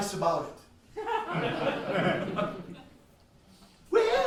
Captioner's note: laughs